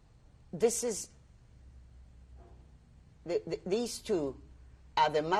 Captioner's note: pauses for 3 seconds